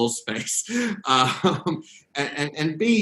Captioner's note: laughing